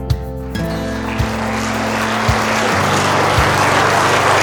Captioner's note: applause